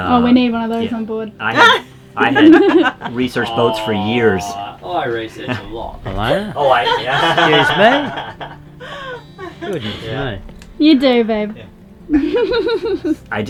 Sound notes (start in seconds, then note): 2.2 laughing; 8.7 all laughing